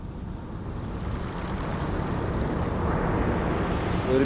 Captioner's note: sound of the sea